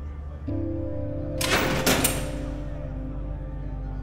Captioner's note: door rattling; muffled shouting over expressive electronic music